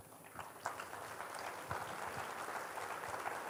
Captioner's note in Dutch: applaus